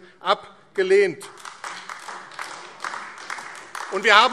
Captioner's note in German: Beifall AfD